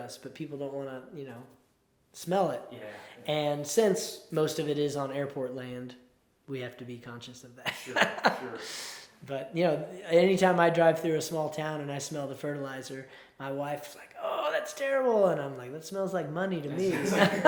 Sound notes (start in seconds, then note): 7.7 chuckles